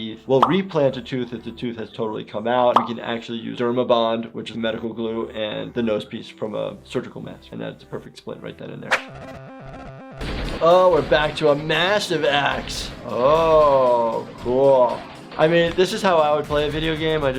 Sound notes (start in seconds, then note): 14.9 gun shots